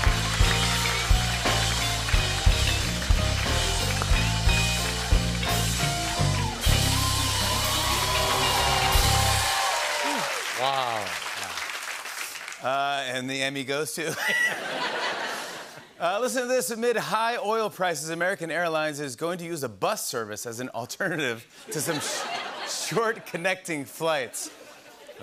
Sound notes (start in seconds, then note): 7.0 cheering and applause; 14.0 laughter; 21.7 laughter